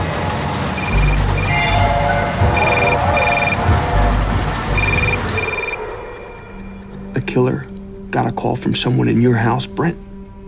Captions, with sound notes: [ringing continues] The killer got a call from someone in your house, Br?